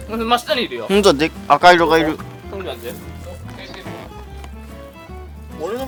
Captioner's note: laughs